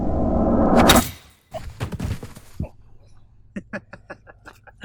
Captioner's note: thwacking; chuckling